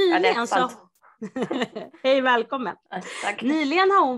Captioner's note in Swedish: Skratt